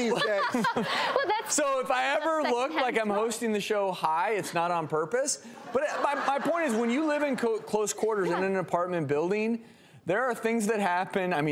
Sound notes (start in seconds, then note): 0.0 laughter; 5.6 audience laughter